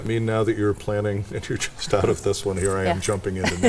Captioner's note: chuckles